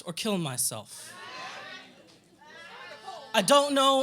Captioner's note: audience chatter